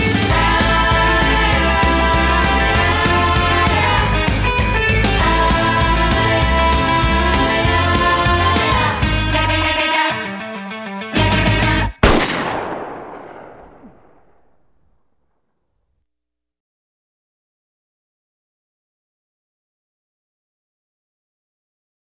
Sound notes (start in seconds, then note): 12.0 gun fires